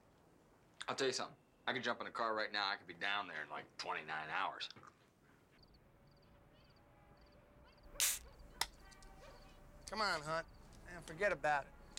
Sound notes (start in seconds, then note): 8.0 can opens